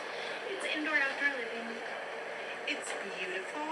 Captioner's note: faintly speaking